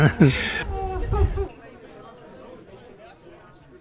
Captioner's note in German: lachen